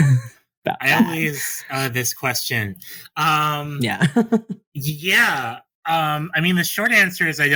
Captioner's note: sigh